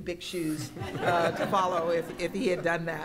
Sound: laughter

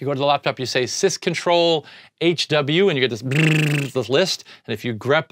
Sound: blowing raspberries

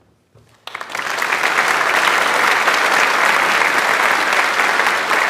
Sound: audience applauds

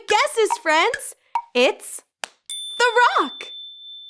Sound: bell rings

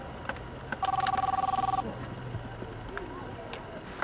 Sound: phone ringing

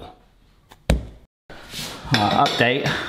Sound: dough ball thuds

